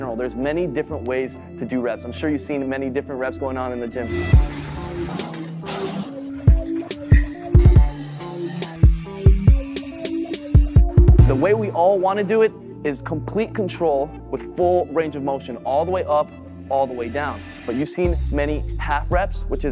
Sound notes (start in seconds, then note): 4.4 suspenseful music; 5.6 machine banging